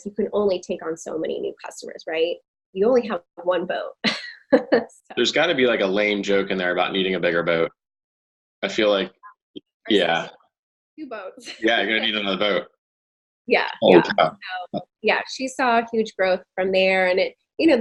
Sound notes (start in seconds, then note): 5.2 chuckling; 9.8 audio distorting